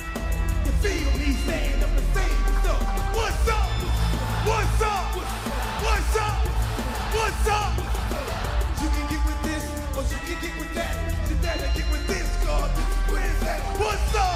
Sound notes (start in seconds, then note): 6.6 crowd cheering